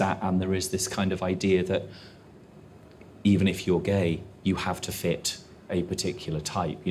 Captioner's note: none